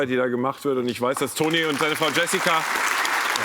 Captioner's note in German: Applaus